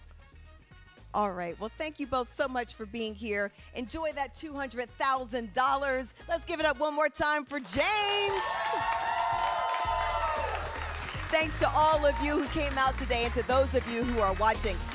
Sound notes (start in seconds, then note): 7.9 cheers